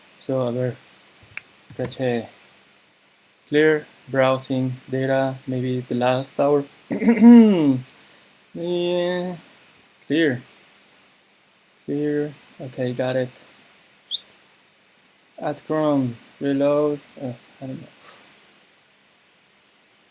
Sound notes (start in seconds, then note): 14.1 whistle